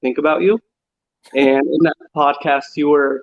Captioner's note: laughs